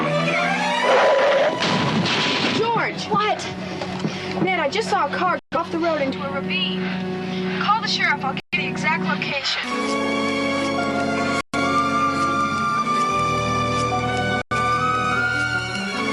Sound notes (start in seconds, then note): 0.9 crashing